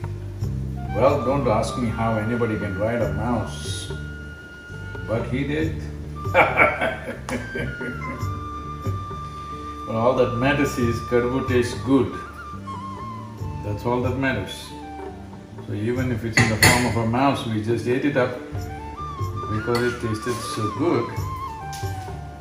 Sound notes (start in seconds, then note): 6.3 laughs